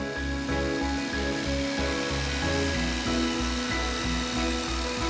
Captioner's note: light, tinkling music; machine whirring